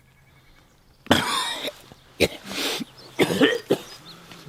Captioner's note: coughing